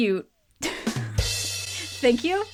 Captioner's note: chuckles; upbeat drum beat